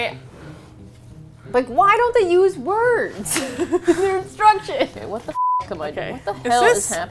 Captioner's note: laughs